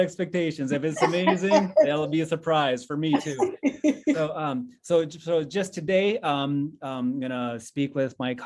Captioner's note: laughs